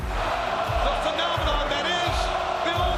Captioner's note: crowd chants "Goldberg"